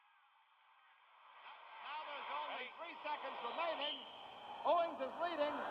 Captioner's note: old broadcast, announcer's voice